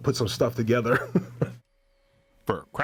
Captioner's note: laughing